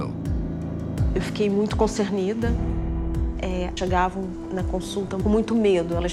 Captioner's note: speaks in foreign language